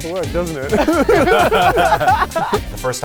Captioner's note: laughing